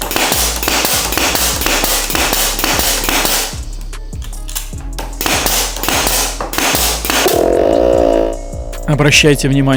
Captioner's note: nailing